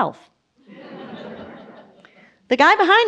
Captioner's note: audience laughs